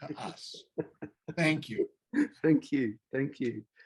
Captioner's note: laughs